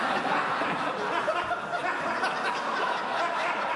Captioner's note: laughter from members